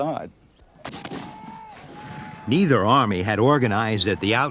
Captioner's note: guns bang